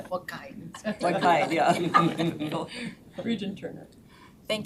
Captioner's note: members laughs